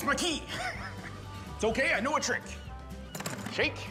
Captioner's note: laughs